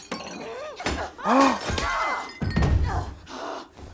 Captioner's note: glass shatters; glass breaks